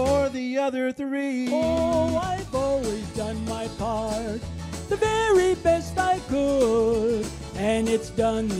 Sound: high tenor voice

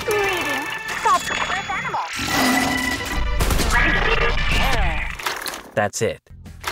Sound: growl, gunshots, and indecipherable noises

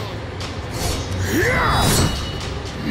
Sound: grunting

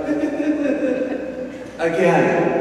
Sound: imitates child laughing

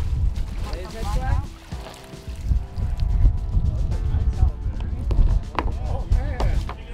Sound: indistinct chatter in background; water splashing; indistinct chatter

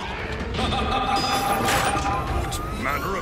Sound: evil laughing

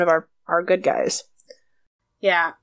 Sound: none

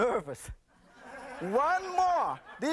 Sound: laughter

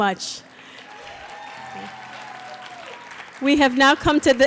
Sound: applause

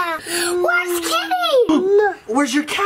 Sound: gasps

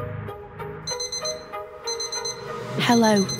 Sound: digital alarm sounds

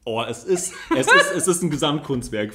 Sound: laughs

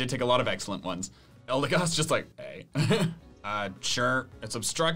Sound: laughs

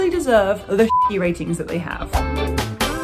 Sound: beep; upbeat music

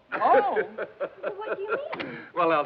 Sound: laughing

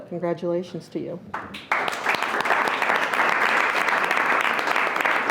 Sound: audience applauds

